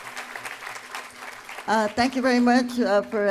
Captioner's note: applause